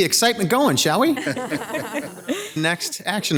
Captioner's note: group laughs